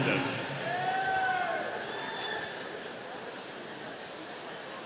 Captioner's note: audience cheering